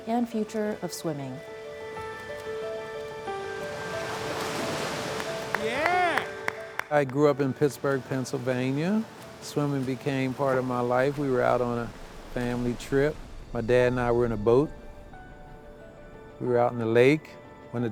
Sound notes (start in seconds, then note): 1.5 slow soft music; 3.6 water splashing; 5.1 hands clapping